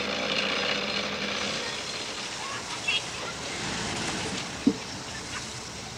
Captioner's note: car engine